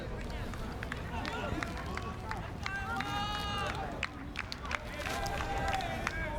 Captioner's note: fans chanting and clapping